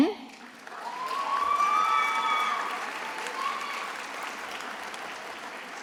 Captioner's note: attendees applauding and cheering